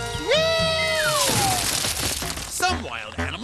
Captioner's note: crash